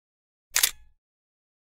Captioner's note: camera shutter clicks